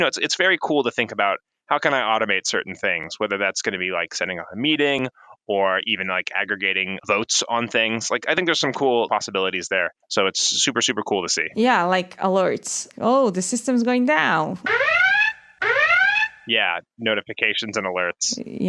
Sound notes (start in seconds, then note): 15.6 alarm blares